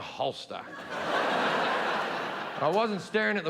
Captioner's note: audience laughing